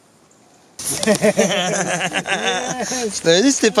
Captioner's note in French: rires